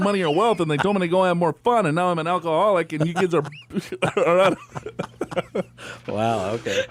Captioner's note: laughs